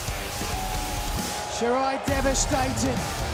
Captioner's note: crowd cheering